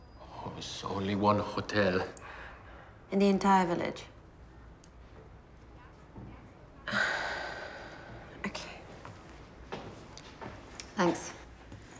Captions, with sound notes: Only one hotel. In the entire village? [Sighs] Ok, thanks.